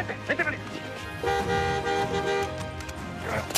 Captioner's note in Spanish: Sonidos del claxon